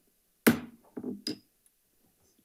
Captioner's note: gavel thuds